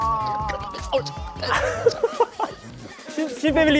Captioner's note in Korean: 웃음